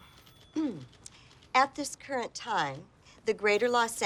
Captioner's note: clears throat